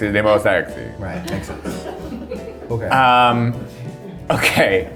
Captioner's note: crew laughs